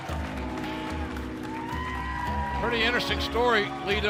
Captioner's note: cheers and applause